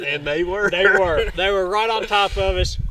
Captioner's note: laughing